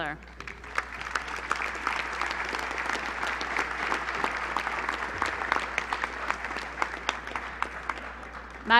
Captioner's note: applause